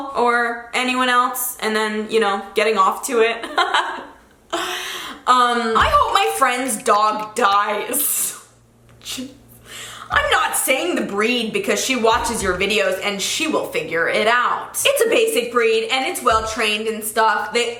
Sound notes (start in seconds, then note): 3.4 chuckling